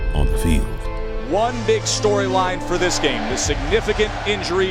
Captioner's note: voiceover